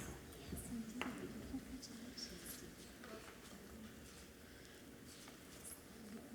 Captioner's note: speaking away from mic